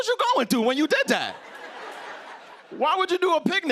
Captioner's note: laughter